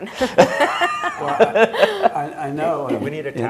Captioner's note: laughing